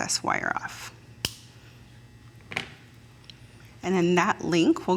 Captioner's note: metal snaps